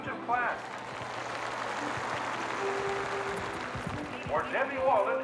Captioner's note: audience applauding